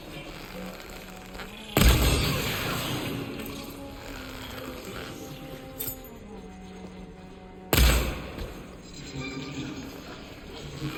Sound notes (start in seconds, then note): 1.7 metal clanking; 7.7 arrows firing